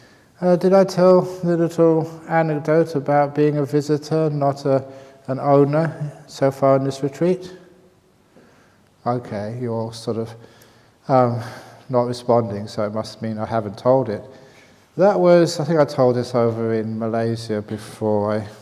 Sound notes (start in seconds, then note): none